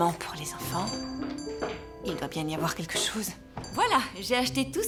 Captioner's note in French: sonnerie de la porte